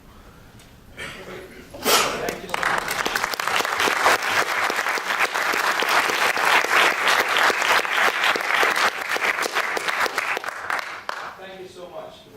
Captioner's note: applause